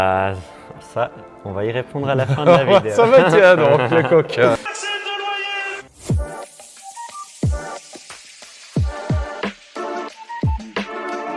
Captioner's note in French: rires